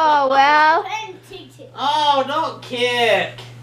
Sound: toddler babble

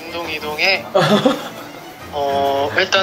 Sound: laughing

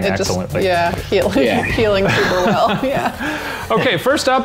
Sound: laughing

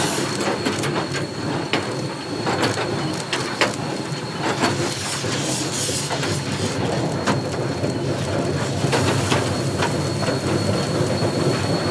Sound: clanking of blades

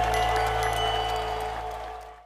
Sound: crowd cheering; bell chiming

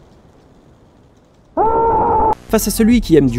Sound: shriek

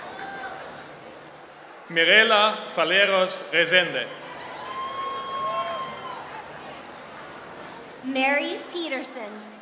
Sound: applause

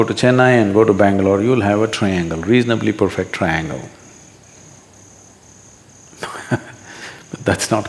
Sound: laughs

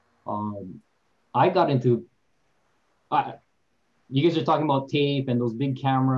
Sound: stutters

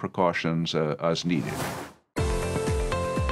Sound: icons whoosh; upbeat music

